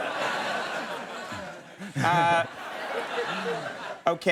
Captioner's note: audience chuckles